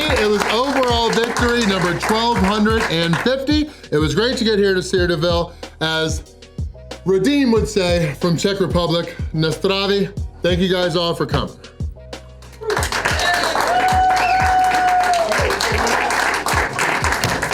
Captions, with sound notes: it was overall victory number 1,250. It was great to get here to Cedarville. As Radim would say from Czech Republic, Na zdraví (cheers), thank you guys all for coming. (Crowd clapping and cheering)